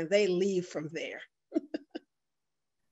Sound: chuckles

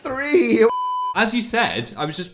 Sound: beep

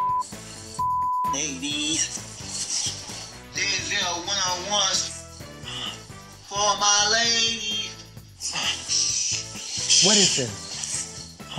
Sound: grunts

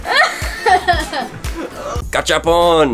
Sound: laughs

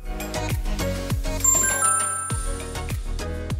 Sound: ding!

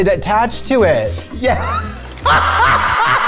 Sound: laughter

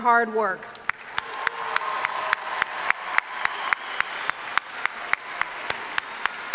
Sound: audience cheering and applauding

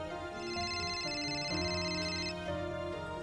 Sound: loud ringing

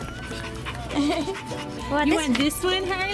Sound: dog panting

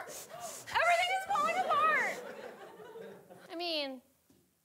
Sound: audience laughing

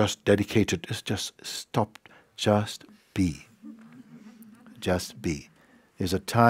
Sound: laughter

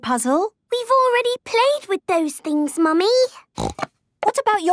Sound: snorting

